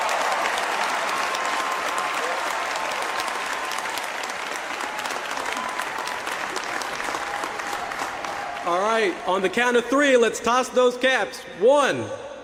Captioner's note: cheers and applause